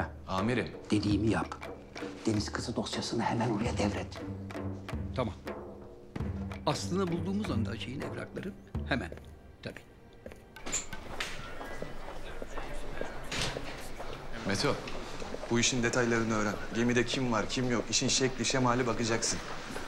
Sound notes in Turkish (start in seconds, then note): 10.6 Kapı açılma sesi; 13.2 Kapı kapanma sesi